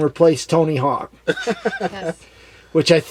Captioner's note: laughs